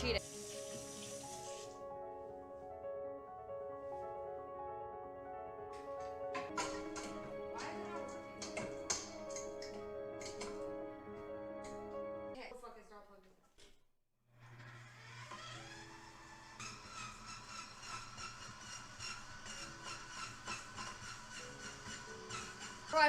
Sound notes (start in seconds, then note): 0.2 soft Music; 6.3 metal Clanking; 14.4 whirring; 16.6 metal Clanking